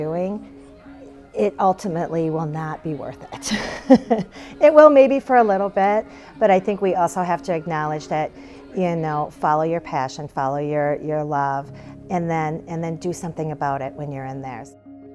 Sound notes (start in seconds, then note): 5.0 chuckling